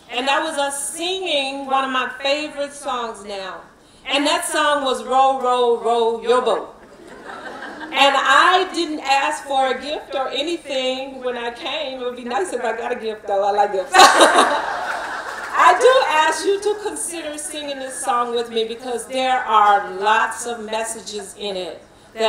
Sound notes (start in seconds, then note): 13.9 laughing